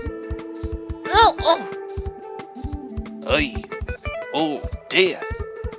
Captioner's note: grunt